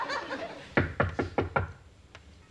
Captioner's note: knocking on door